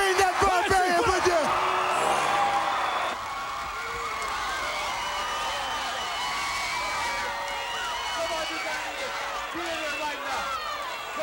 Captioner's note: crowd cheering